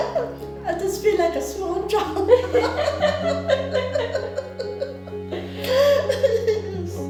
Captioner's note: laughter